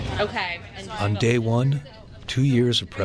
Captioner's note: voiceover